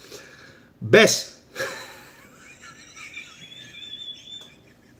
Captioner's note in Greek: γέλια